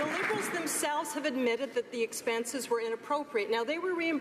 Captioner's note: some Applause